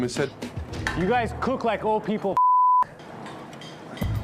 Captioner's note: beep